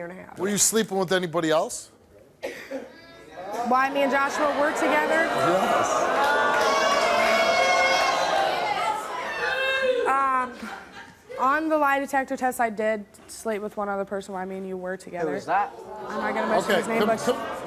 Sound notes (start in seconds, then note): 3.2 audience murmurs; 6.2 crowd shouts